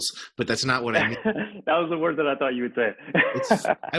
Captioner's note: laughs